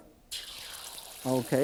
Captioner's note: egg sizzling